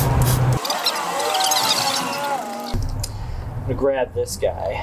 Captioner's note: tape fast forwards